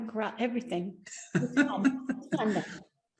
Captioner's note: laughing